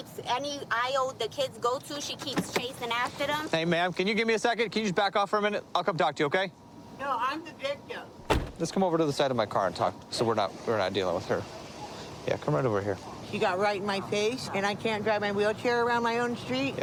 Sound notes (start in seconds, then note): 8.2 car door closes